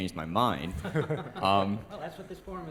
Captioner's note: laughter